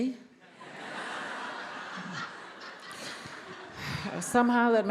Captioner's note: attendees laughs